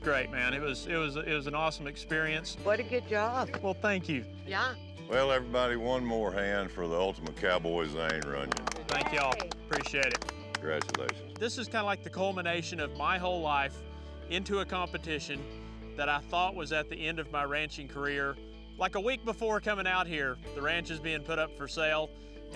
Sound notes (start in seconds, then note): 7.8 all clapping